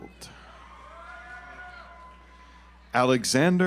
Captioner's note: audience applauds